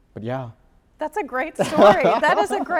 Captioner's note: laughing